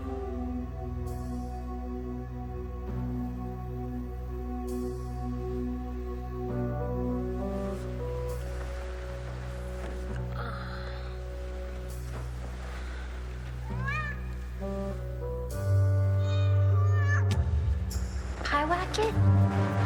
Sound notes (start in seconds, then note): 10.2 Marlee sighs; 13.7 distant cat screeching; 16.8 muffled cat shrieking